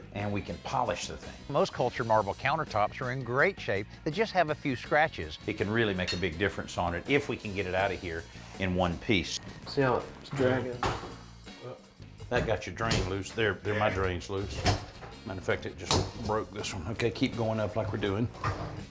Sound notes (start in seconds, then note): none